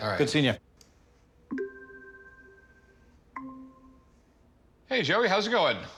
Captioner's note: computer chimes